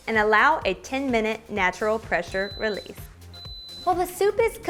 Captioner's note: Instant Pot beeping